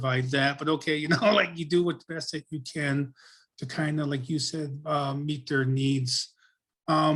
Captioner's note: laughs